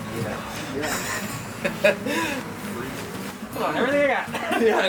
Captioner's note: laughing